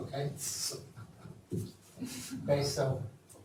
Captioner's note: laughs